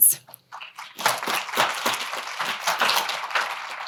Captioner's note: applause